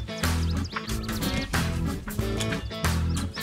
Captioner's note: birds chirping